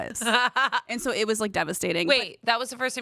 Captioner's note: laugh